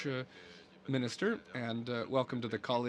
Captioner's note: speaking French